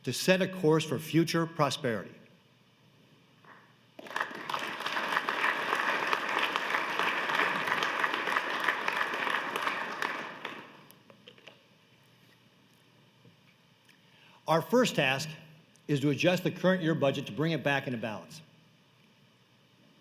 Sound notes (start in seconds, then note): 6.6 applause